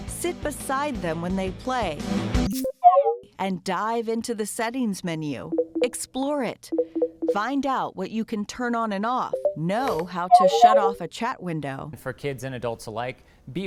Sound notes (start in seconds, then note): 2.5 game chirping